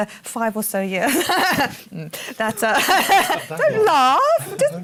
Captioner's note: laughs